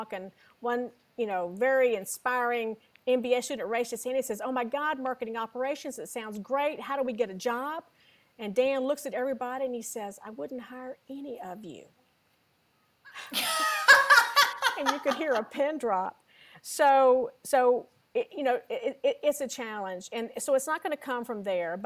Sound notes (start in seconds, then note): 13.1 laughter